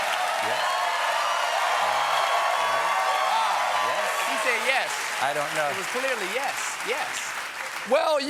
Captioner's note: cheers and applause